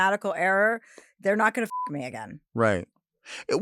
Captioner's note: beep